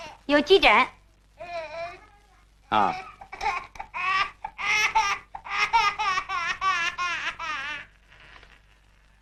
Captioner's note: baby crying